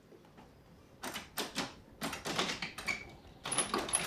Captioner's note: door rattling